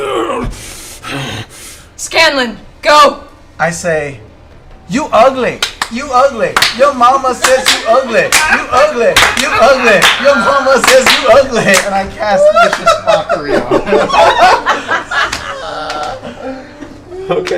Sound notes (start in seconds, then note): 5.0 chants; 12.3 laughter